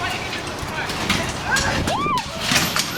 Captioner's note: shrieking